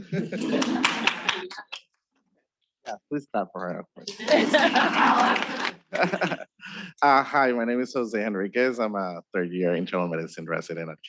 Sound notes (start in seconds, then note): 0.0 students laughing; 4.0 students laughing; 5.9 laughs